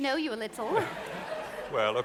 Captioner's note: audience laughing